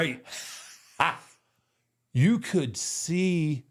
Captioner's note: Michael laughs